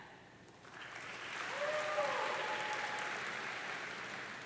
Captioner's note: audience cheering